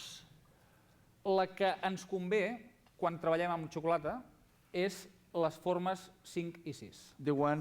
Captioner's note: non-english speech